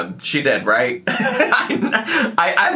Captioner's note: laughing